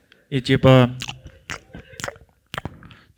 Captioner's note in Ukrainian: звуки поцілунків